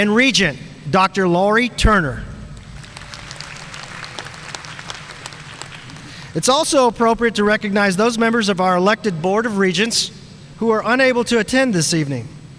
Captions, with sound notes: And Regent Dr. Laurie Turner. (audience applauding) It's also appropriate to recognize those members of our elected board of regents who are unable to attend this evening,